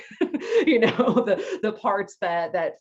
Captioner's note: laughs